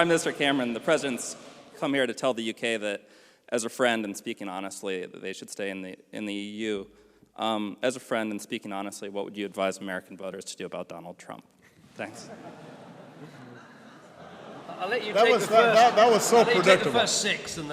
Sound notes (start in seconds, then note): 12.0 laughter